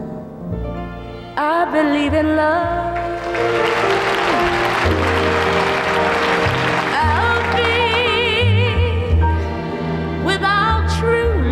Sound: audience applauds

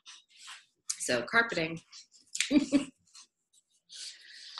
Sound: chuckles

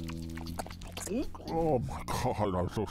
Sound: eating munching and crunching; gulp; mouth full

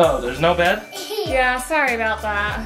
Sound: laughs

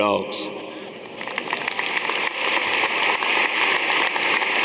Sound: audience applauding

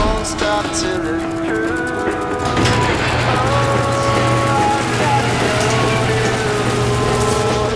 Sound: song playing, Garage door creaking as it opens

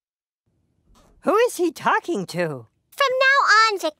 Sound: none

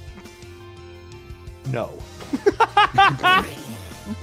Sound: laughs

